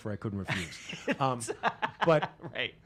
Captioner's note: laughing